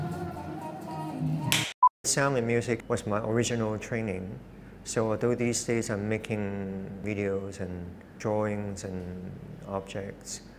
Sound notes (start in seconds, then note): 1.5 clap